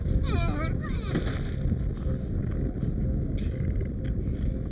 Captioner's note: Larry groaning; body thuds